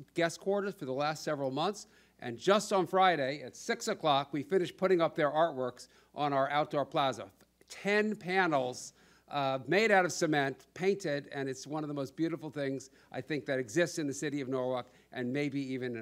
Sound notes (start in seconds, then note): none